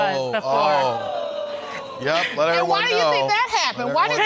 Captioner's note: audience exclaiming